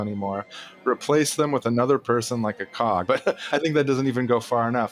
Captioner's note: laughs